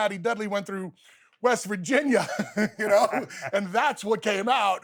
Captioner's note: laughs